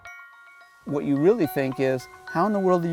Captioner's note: water pattering